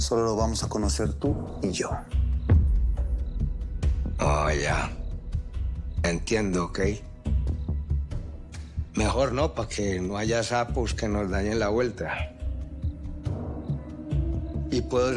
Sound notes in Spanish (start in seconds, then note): none